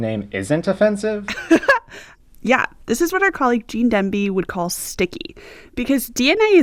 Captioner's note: laughter